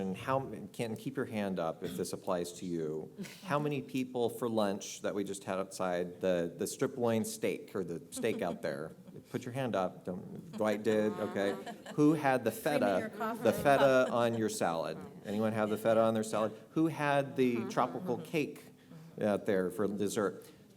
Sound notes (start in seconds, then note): 10.5 laugh